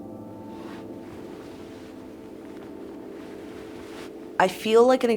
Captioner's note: fabric rustles